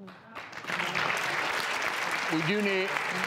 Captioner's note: applause